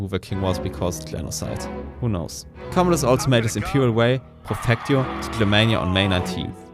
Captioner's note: quietly